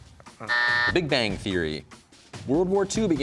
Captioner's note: sighs; buzzer sounds